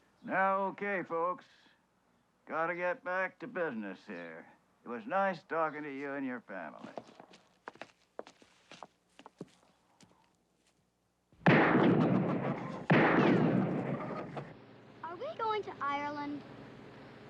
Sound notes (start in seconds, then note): 11.4 gunshots; 14.0 chickens clucking